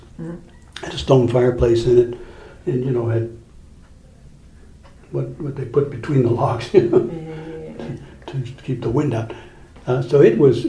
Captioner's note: chuckles